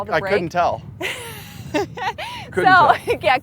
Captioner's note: laughs